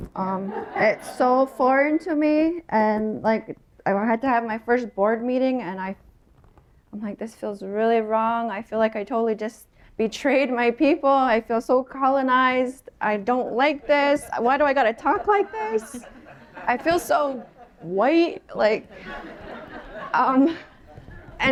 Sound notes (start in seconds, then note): 0.4 laughter; 14.3 mic reverb a bit; 16.1 laughter